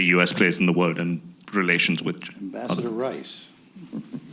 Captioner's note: laughter